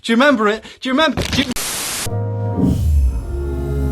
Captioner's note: white noise hissing; unsettling music